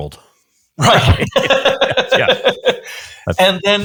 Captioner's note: laughs